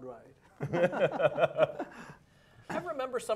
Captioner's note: laughing